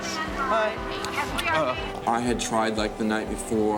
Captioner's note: smooching sound